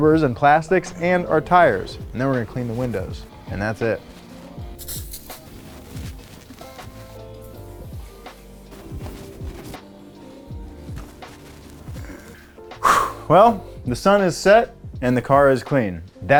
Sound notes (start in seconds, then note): 5.3 gentle music; 12.0 deeply exhales